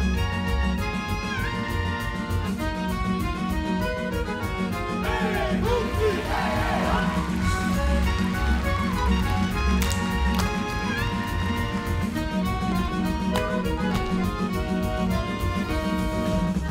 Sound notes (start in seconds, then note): 5.0 dancers chant; 6.7 crowd claps; 9.1 dancers clap; 10.2 ukrainian folk music